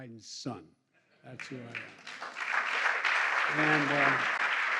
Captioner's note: applause